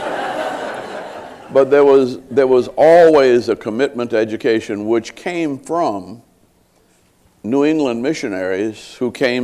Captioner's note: laughter